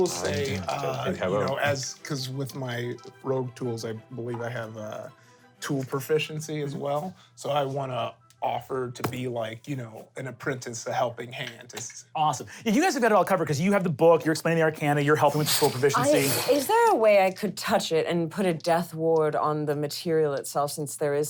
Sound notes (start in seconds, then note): 16.0 blowing air